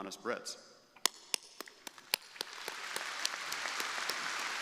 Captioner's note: crowd applauding